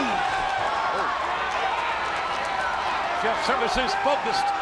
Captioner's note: audience cheering